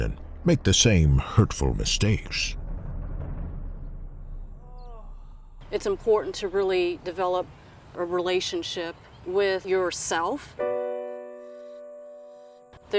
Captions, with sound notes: and make the same hurtful mistakes. (drums) (cry of pain) - It's important to really develop a relationship with yourself. (piano music)